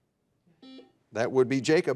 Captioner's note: buzzer dings